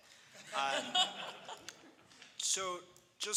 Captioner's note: panelists laugh